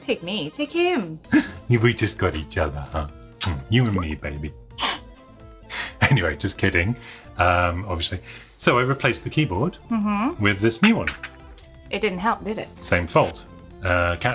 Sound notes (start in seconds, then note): 3.2 smooches; 5.3 laughs